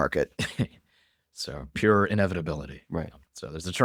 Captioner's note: laughs